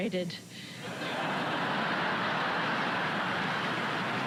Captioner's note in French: des rires